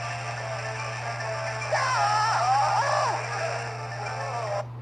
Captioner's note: grunts, Groaning